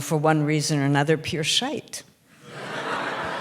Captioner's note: laughter